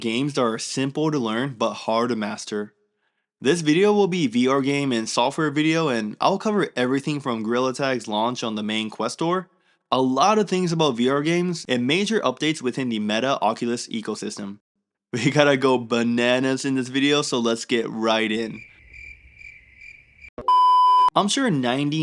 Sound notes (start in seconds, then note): 18.4 crickets